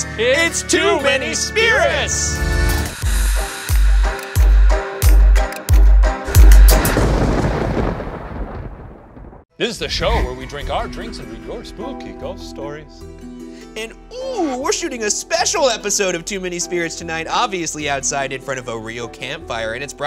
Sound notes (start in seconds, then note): 2.3 upbeat music; 6.2 thunder clapping